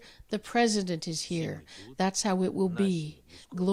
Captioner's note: speaking foreign language